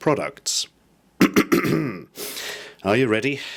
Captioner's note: he clears his throat. Loudly